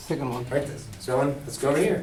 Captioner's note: voiceover